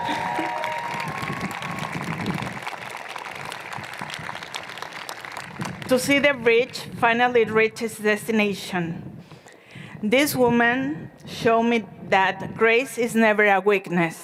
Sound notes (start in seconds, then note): 0.0 cheers and Applause